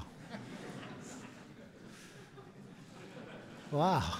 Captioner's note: laughter